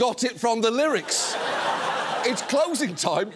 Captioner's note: audience laughs